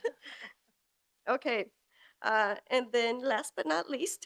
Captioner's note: laughs